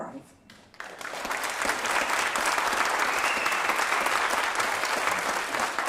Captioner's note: applause